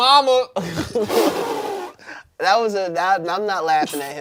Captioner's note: everyone laughs